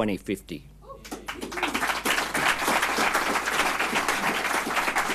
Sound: audience clapping

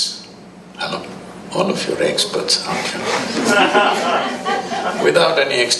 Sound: laughter

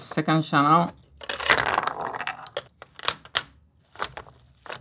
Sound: marbles rolling

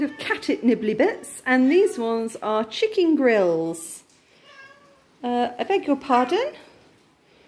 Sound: cat meow

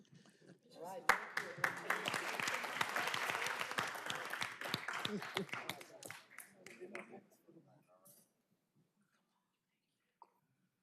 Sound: laughter; applause

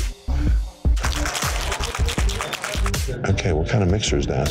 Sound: ice clattering

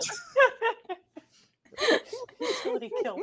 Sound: all laughing

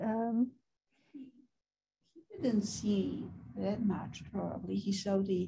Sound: woman's Voice

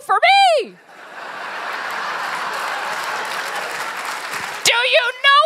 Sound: laughter

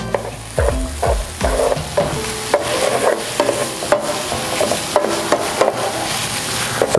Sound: sizzling; spoon scraping

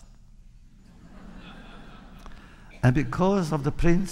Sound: laughter

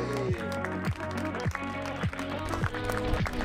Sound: crowd clapping

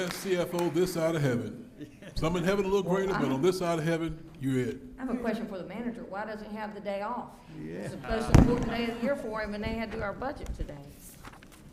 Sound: applause

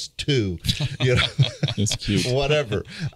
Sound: everybody laughing

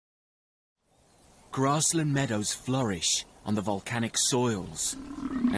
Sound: buffalo grunts

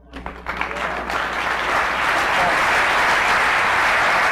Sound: audience applause

